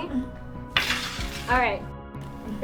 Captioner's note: tray sliding